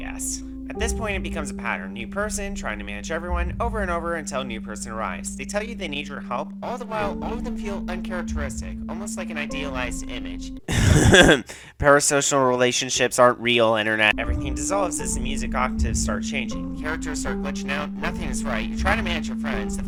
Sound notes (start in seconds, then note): 10.7 cough cough